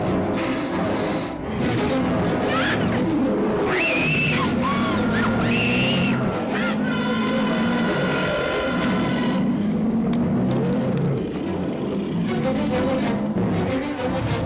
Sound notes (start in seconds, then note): 0.1 Janice screams; 3.5 beasts growling and roaring; 11.5 dramatic music